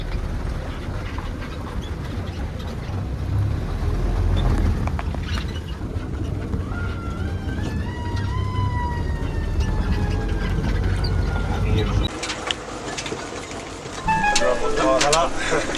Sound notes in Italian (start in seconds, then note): 6.6 Sirena in lontananza che incalza imperterrita; 14.0 Suono misterioso; 15.5 Risate misteriose